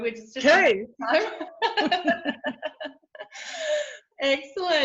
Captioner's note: both laugh